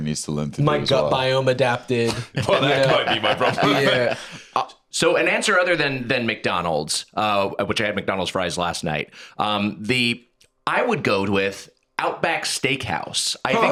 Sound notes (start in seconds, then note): 2.0 laughs